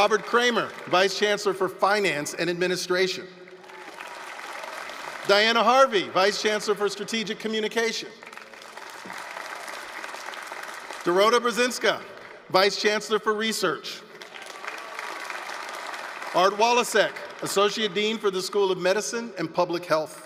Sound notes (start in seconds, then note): 3.3 applause; 8.7 applause; 14.0 applause